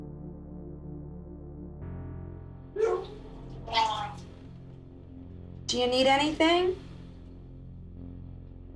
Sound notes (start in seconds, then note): 2.8 vomiting